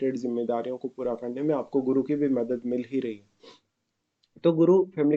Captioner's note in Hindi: नाक से की जाने वाली आवाज़